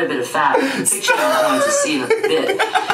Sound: laughs

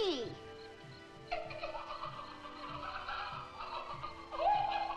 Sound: Duke laughing

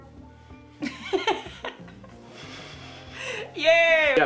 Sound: she laughs

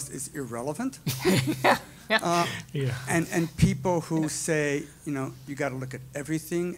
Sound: laugh

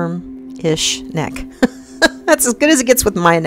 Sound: woman laughs

